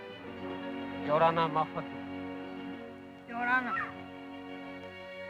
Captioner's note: speaking foreign language